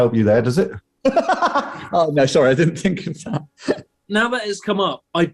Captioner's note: laughing